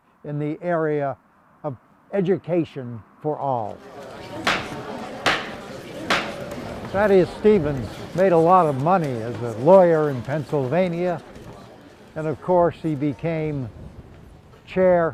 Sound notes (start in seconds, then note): 5.2 gavel whacks